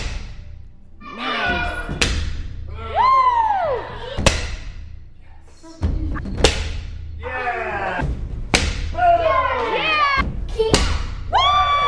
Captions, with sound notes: - Nice. (cheering) - Yeah. Oh. (kids cheering) - Kiai!